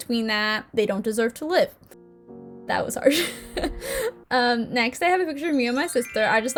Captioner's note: giggle